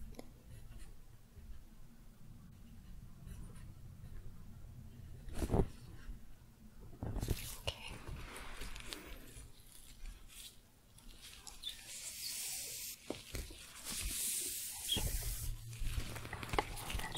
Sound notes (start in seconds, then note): 8.6 glove sounds; 15.2 shuffling